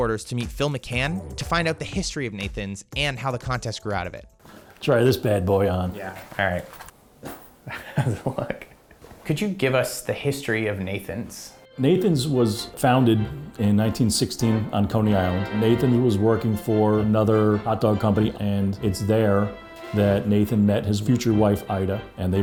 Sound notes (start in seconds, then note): 7.6 laughing; 11.2 carousel music